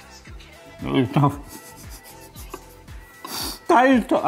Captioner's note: laughs